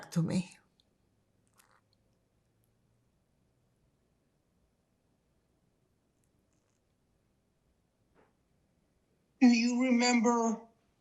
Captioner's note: pauses 8 seconds